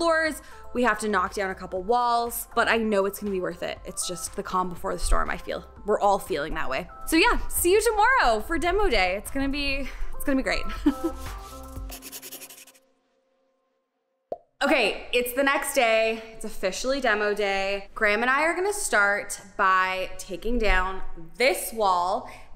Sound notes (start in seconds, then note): 10.7 chuckles; 11.0 pen scraping